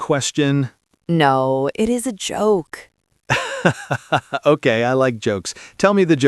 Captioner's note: laughs